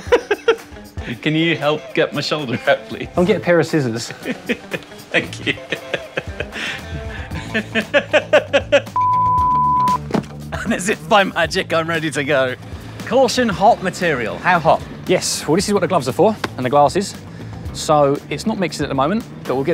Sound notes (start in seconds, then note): 0.0 laughing; 6.7 laughing; 8.9 beep